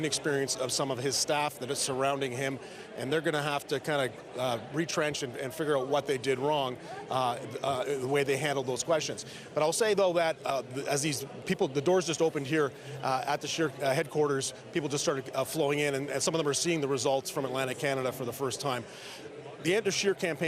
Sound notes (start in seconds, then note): none